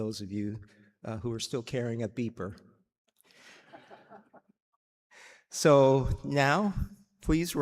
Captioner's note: laughter